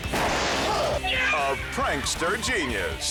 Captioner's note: circuit explodes; person screams